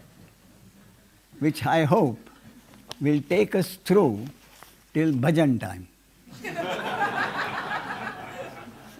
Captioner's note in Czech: smích